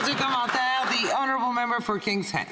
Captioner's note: some Applause